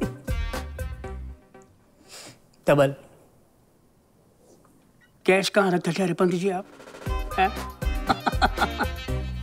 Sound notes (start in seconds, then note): 8.0 Laughs